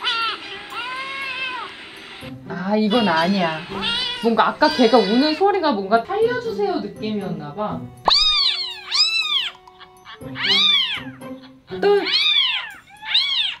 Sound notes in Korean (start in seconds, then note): 0.0 밥 달라고 하는 고양이 소리; 8.0 다시 아기 고양이 소리